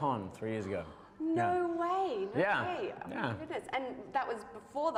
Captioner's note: gasp